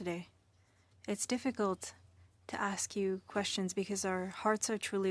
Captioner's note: speaking French